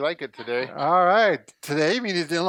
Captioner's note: laughs